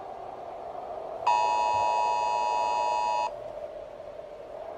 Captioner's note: alarm